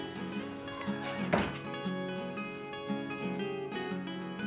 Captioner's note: door thuds